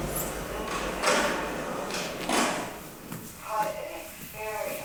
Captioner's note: tense music; metal clicking